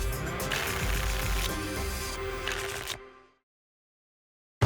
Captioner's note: tickets shuffling